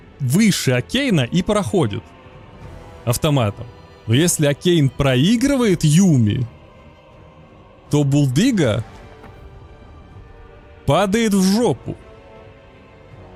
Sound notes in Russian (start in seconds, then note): none